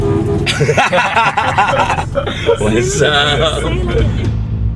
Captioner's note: laughs